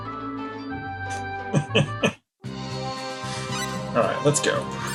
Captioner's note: laughs